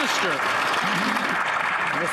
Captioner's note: some Applause